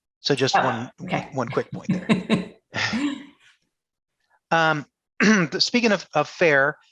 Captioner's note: laughs